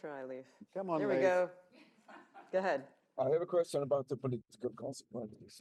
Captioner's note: laughter